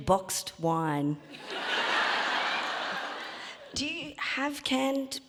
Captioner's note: audience laughing